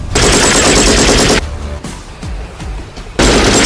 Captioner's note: gunshots firing; gunshots banging